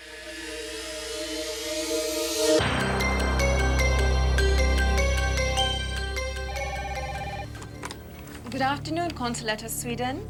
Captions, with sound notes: [PHONE RINGING] Good afternoon, Consulate of Sweden.